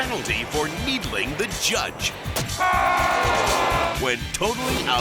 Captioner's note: judge yelling